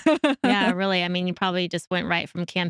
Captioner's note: laughs